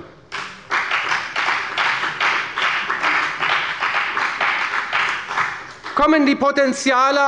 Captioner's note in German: Beifall bei der FDP